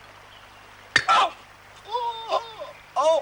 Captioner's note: exclaiming in pain